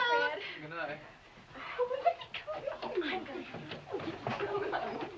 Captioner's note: girls giggling